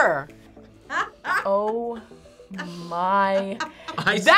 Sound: React laughs

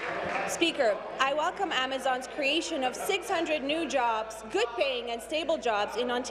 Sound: applause

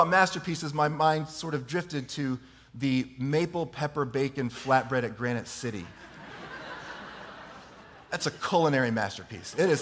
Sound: laughter

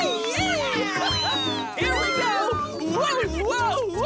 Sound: laughing and cheering

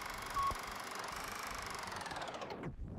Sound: projector rattling; beeps

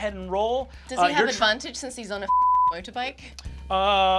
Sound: beep

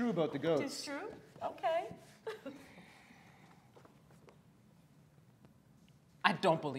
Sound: chuckles

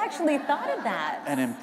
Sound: laughter

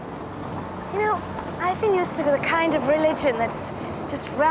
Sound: none

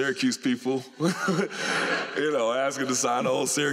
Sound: laughter

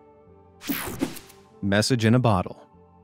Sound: image whoosing

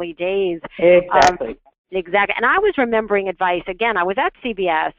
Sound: voiceover

